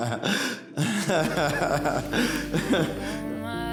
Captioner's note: chuckles